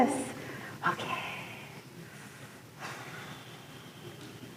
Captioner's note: exhales